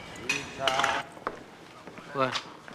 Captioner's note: bottles clinking